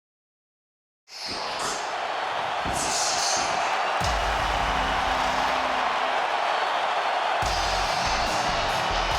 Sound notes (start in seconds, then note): 1.2 audience cheers; 1.5 upbeat music